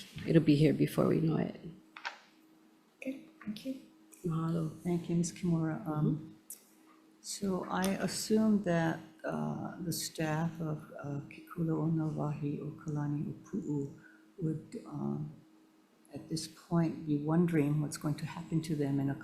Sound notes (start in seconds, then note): 10.4 speaking Hawaiian